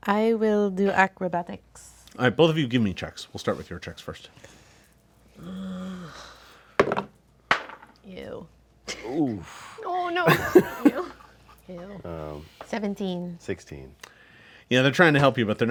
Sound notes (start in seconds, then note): 7.5 dice roll; 8.7 scoffs